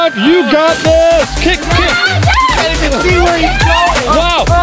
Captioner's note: shouting